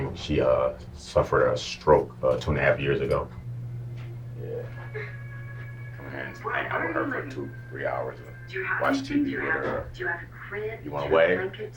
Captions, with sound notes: She, uh, suffered a stroke two and a half years ago. (Television Chattering) I come here and hang with her for two or three hours or so to watch TV with her. You want to wave?